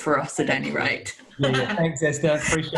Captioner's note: laughing